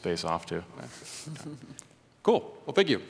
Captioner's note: chuckles